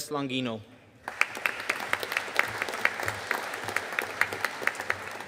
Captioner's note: audience applauding